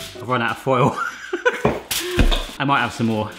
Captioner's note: laughing